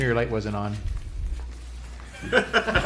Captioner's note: laughter